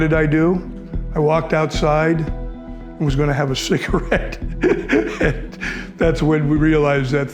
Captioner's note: laughs